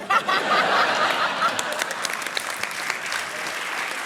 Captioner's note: laughter, applause